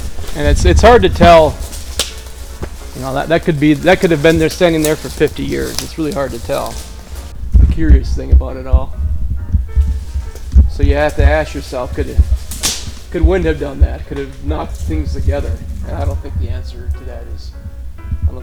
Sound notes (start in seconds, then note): 13.9 leaves crunching